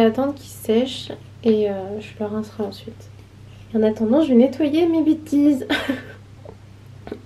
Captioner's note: laughs